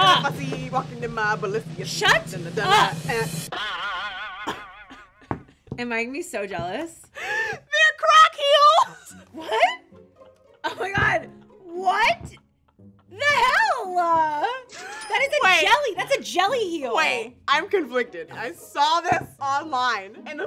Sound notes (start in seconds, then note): 3.5 laughing; 3.7 spring bouncing